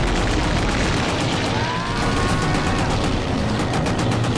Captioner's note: screams